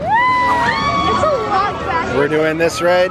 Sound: screaming

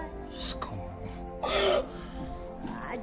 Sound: Efose cries

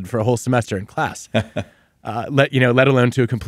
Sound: chuckling

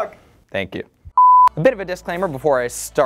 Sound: beep

